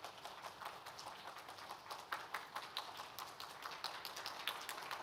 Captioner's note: everyone clapping